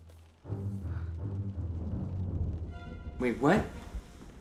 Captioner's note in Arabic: هدير الرعد; موسيقى أوركسترالية مشؤومة